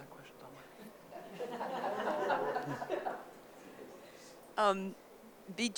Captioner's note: audience laughing